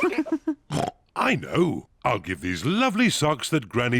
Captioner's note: kids and mummy pig laugh; oinks